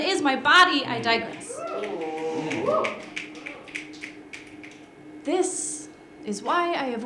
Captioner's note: applause